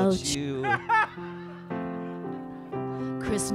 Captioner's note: man laughs